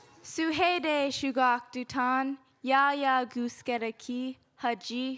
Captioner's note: speaking in Lingít